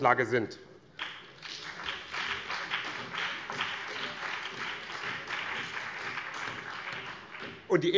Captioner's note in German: Beifall BÜNDNIS 90/DIE GRÜNEN